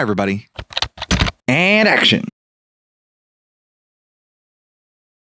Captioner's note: typing